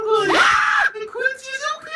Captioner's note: dog barking